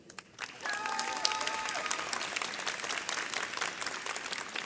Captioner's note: audience cheers